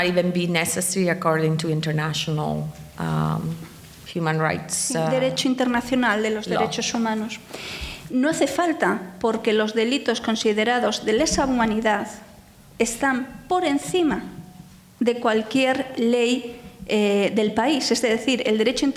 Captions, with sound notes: even be necessary according to international human rights. (speaking in foreign language)